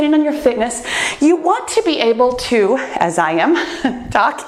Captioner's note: laughs